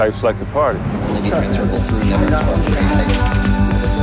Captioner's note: indistinct chattering